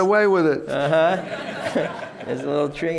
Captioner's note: laughter